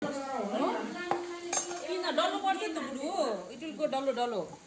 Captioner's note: people chattering